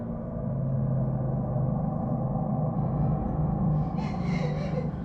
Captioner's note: droning, ambience